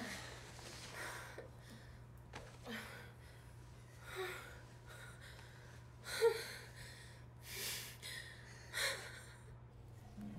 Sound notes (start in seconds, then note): 6.0 softly exclaiming